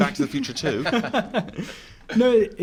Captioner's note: laugh